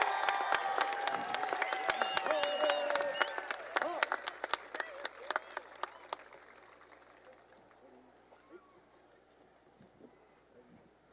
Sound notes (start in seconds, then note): 0.0 applause and cheering